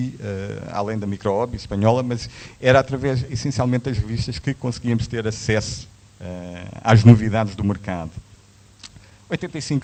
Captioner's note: Spanish